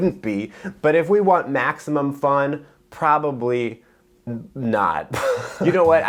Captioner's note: laughs